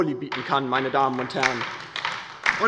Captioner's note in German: Beifall bei der LINKEN